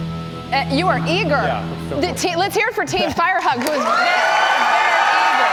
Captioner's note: cheers and applause